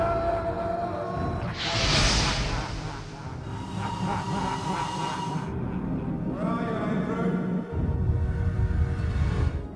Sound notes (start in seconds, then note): 1.5 entity laughing; 3.8 eerie tense music